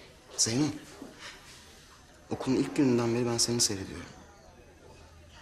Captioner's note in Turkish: none